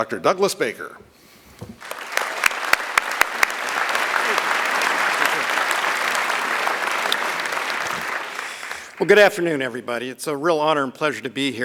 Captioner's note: applause